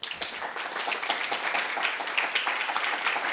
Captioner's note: applause